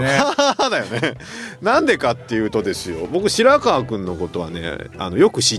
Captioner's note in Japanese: 笑い